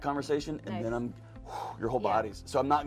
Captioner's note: loud sigh